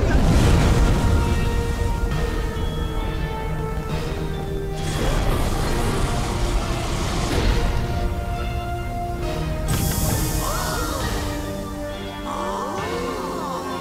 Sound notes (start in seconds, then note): 0.1 majestic music playing; 10.2 monsters "ahh"; 10.2 monsters "ooh"